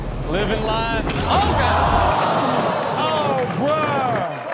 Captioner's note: audience gasps